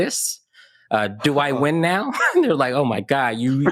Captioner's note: chuckles